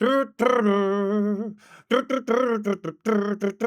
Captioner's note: humming